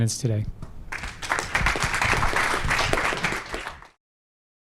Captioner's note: applause